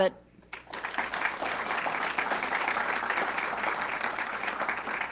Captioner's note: audience clapping